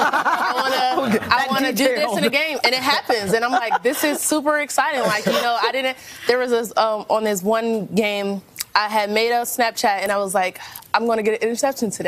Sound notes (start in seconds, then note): 4.9 laughter